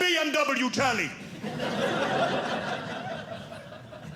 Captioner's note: audience laughing